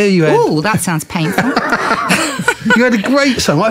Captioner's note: laughter